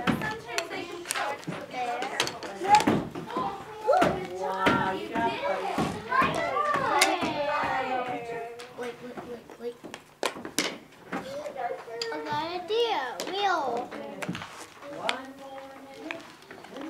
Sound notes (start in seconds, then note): 0.1 background chatter; 13.7 background chatter